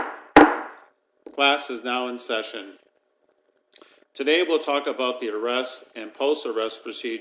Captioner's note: gavel rapping